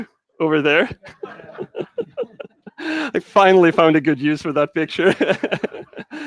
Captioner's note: laughs loudly